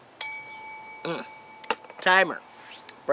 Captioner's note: timer chimes